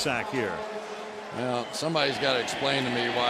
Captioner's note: pa announcement